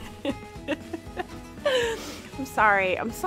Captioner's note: laughs